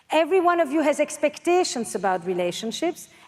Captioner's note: none